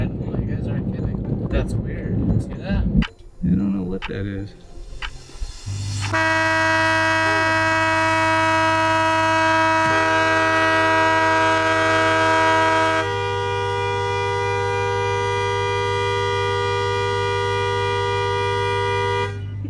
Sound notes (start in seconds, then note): 2.8 counter ticking; 6.2 horns honking